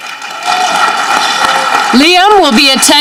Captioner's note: audience clapping